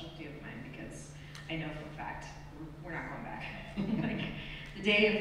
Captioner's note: laughs